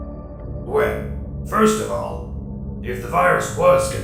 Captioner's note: none